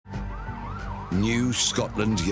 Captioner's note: siren wailing